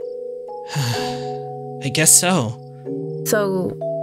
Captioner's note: sigh